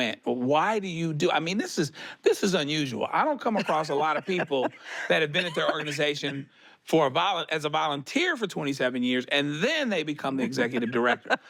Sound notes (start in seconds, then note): 3.5 laughs; 5.4 she coughs